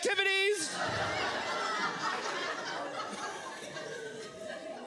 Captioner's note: audience laughs